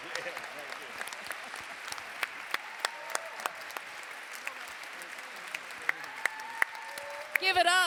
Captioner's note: background chatter